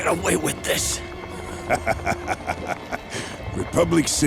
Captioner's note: laughing